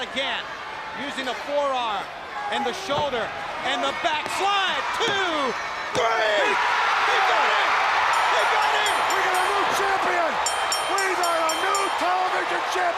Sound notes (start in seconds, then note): 6.4 crowd cheering; 8.1 bell ringing